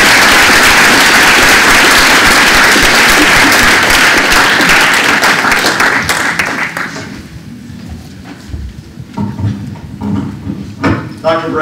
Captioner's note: applause